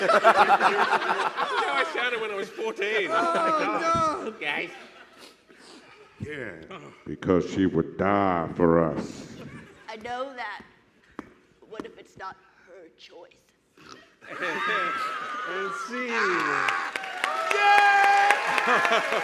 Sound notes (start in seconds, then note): 0.0 laughter